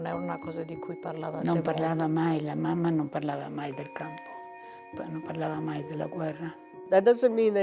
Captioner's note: speaking in foreign language